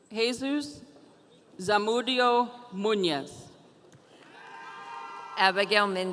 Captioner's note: audience cheering